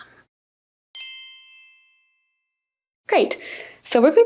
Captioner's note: soft chimes